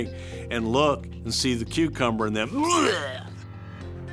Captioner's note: gags